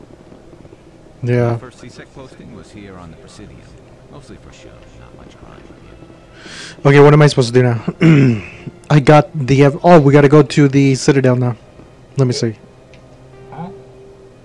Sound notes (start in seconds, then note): 7.9 clears throat